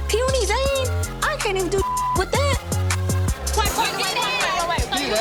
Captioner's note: beep